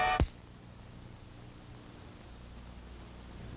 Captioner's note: perky music; loud snap